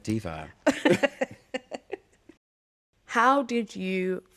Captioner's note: laughter